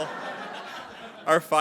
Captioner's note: attendees laughing